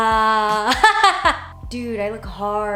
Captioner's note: laughs